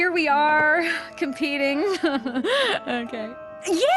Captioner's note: laugh